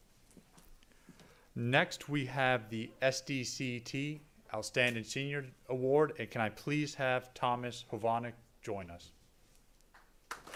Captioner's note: applause